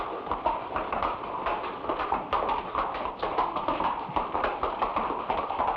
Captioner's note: horse hooves patter